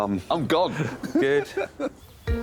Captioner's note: laughs